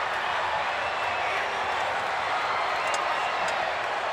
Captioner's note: audience cheers